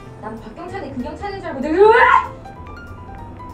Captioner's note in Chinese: 惊叫